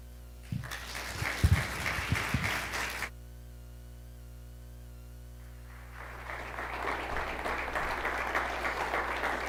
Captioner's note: applause